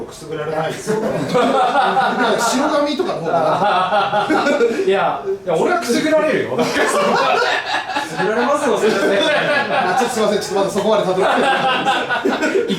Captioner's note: the men laugh agreeingly